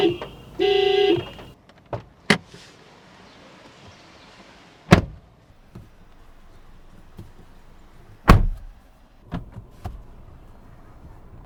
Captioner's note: door Thud